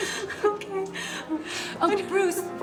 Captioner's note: laughing